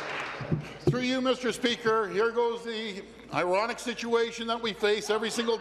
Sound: applause

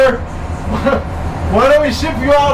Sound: laughs

